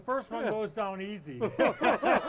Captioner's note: all laughing